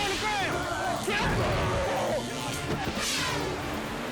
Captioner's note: taser buzzing